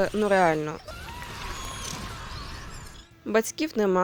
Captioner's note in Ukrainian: крик